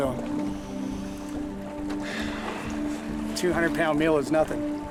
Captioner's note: sighs